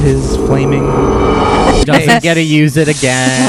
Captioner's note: magical sound effect and quenching sound